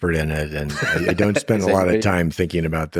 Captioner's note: Lex laughs